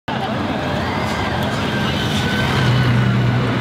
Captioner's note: flowing traffic